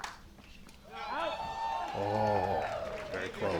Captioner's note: crowd cheers